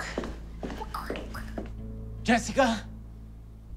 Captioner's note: Deborah quacks